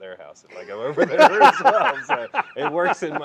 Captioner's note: laughing